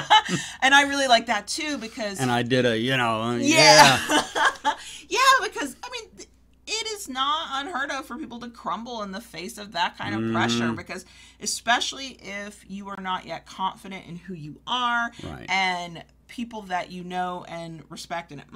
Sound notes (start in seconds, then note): 3.4 laughs